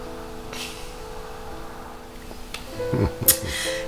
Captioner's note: sobs; chuckles